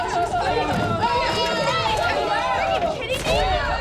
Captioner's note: angry chatter